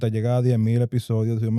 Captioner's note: speaking In Foreign Language